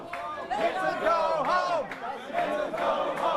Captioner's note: crowd chanting